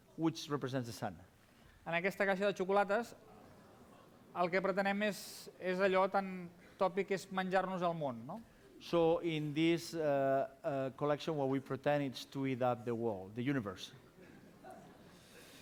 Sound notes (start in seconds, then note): 4.7 non-english speech